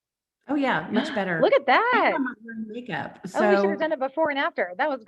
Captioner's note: murmurs